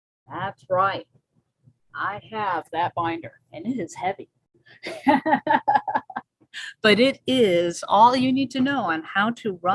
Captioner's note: laughs